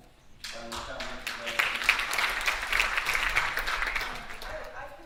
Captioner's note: audience applauding